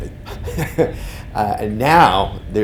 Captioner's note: laughing